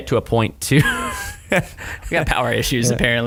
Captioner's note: laughter